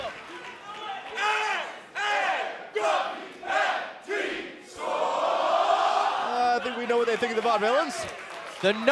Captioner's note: fans chanting